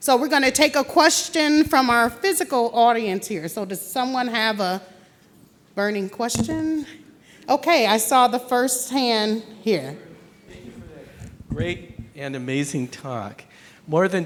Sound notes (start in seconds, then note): none